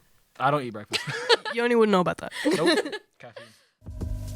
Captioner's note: laughter